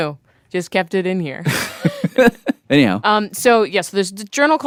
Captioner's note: laughs